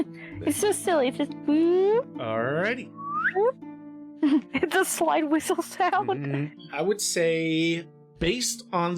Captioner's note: slide whistle sound